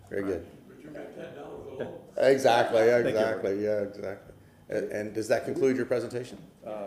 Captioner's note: laughter